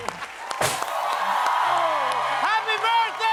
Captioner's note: cheers and applause